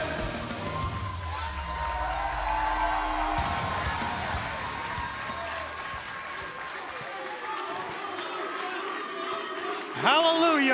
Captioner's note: cheers and applause